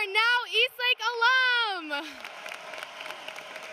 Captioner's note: cheering and applause